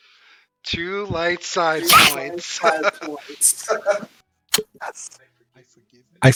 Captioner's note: kiss